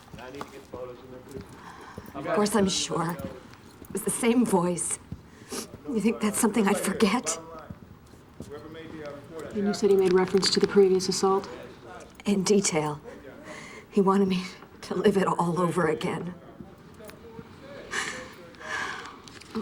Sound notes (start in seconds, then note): 5.2 sniffles; 17.8 sobs